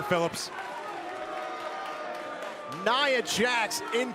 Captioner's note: crowd cheering